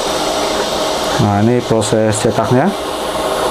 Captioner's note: printer machine sound